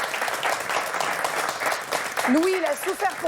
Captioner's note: applause from the audience